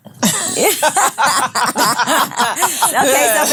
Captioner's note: ladies laughing